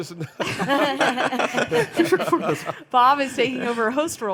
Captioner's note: panelists laughing